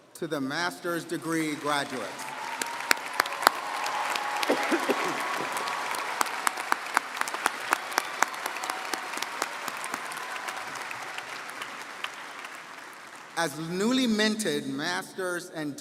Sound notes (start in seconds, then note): 2.5 audience cheering & applauding